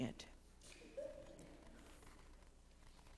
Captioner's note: stifled chuckle from congregation